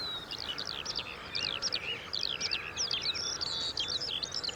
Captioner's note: birds singing